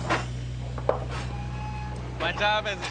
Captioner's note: metal clanging